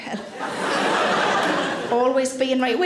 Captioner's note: audience laughing